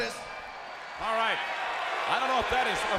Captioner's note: crowd cheering